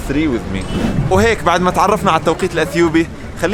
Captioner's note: Arabic